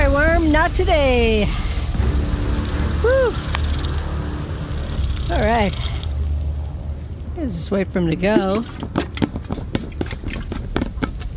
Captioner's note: sighing